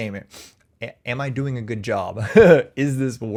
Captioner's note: chuckles